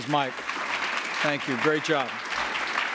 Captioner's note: applause